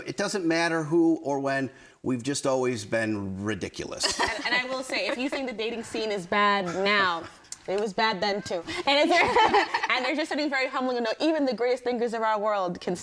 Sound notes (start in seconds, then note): 9.1 everyone laughing